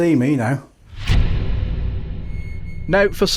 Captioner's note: sound FX